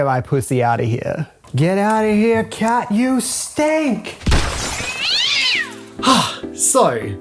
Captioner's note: crash! cat screech!